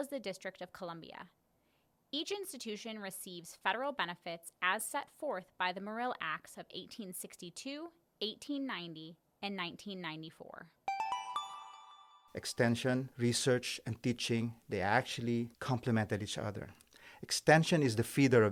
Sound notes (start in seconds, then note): 10.8 chime